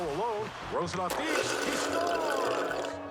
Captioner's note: slurping